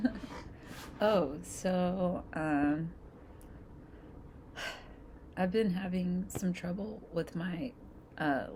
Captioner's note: sigh